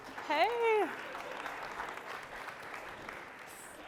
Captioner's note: applause